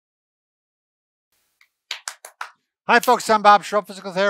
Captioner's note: clapping